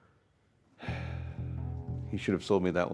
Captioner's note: Mr.Vincent sighs